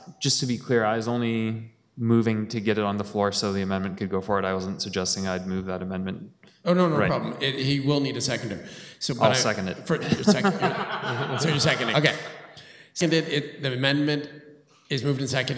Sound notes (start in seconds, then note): 9.9 laughter